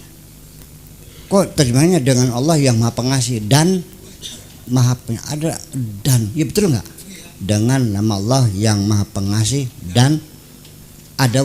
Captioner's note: Arabic